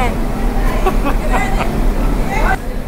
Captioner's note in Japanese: 大笑い